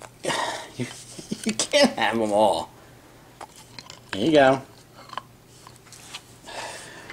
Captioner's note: laugning